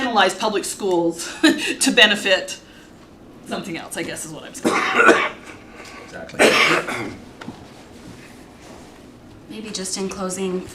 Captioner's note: cough and clears throat